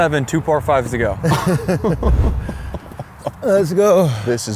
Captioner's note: laughs